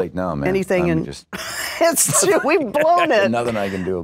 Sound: laughter

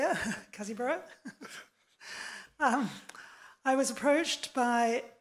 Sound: laughing

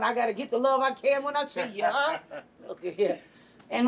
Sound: chuckling

